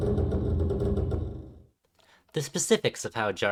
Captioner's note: pause for audience and metallic groans